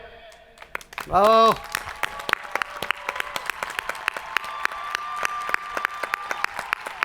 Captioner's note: hands clapping; people cheering